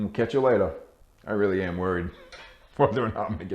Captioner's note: laughing